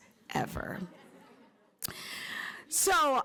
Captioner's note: laughter